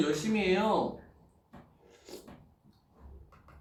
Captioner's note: slurp